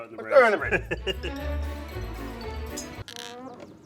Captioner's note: laughs